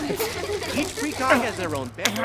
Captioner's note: kids giggling